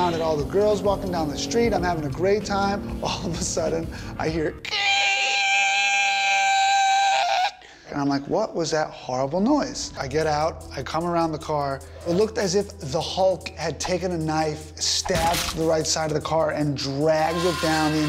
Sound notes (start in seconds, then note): 4.7 screeches loudly